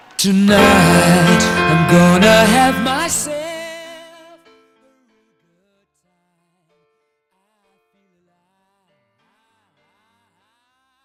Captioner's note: cheering and applause